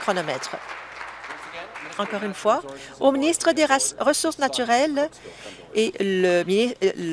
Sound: applause

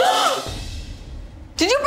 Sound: exclaim; loud thud

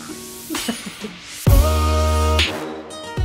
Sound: women 2 giggling; electronic music

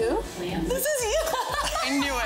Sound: laughs

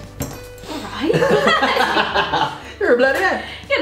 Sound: both laugh

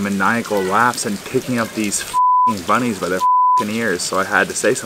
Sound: beep

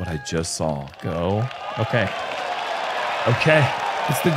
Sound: applause

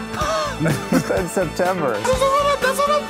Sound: laughs

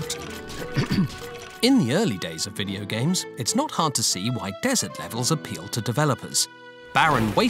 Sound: clears throat

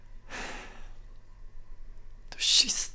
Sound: breathes out heavily

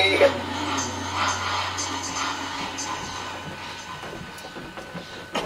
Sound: ghostly voices

